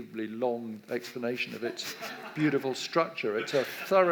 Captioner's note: audience laughs